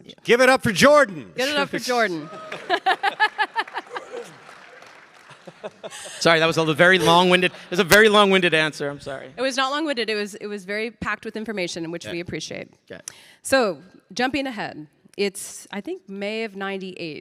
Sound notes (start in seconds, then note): 1.8 laughs; 2.2 audience applauding